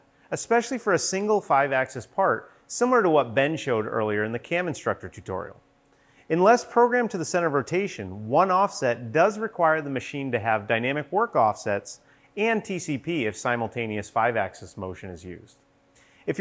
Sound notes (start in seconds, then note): none